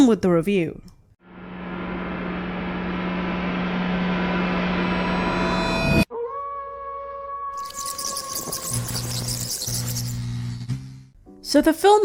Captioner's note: spooky noises